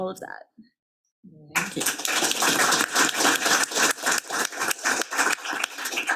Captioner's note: attendees clapping